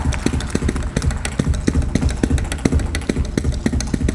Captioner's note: audience cheering and applauding; tapping